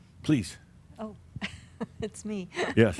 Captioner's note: she chuckles